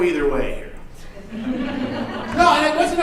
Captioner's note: audience laughing